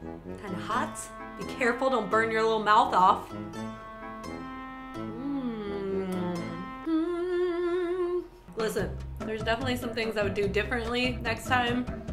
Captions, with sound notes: Kinda hot. Be careful, don't burn your little mouth off. mmmmm..... *hums* Listen, there's definitely some things I would do differently next time